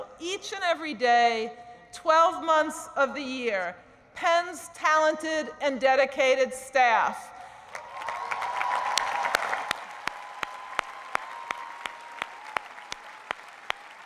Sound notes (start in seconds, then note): 7.7 cheering and applause